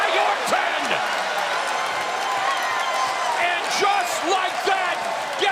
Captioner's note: applause